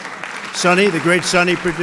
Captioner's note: applause